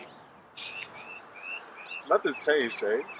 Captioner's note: laughing